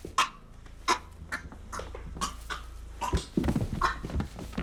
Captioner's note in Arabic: صرصور يختنق; جسم يرتطم بالأرض; صرصور يختنق